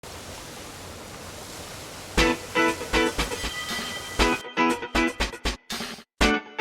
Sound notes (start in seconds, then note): 0.0 fountain splashing; 2.2 upbeat music